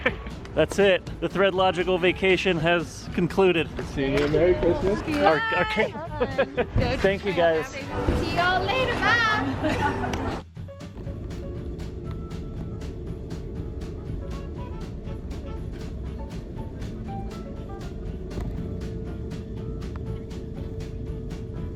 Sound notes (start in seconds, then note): 0.0 laughs; 5.6 laughs